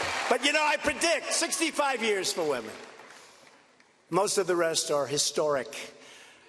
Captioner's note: cheers and applause